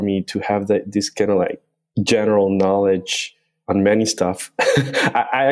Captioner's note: laughs